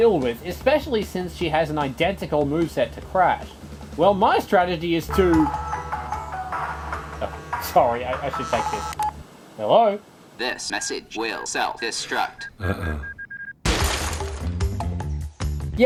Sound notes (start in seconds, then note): 7.9 phone rings; 13.6 explosion